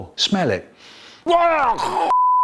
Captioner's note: Michael Gagging